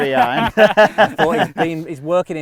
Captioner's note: all men laugh